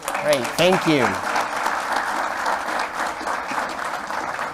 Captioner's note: applause